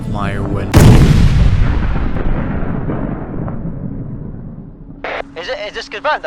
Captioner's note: boom, fade to silence